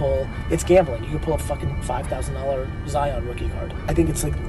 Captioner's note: beep